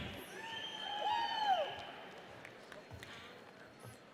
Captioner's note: audience cheers